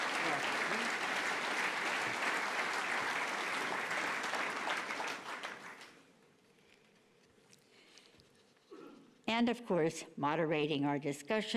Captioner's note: applause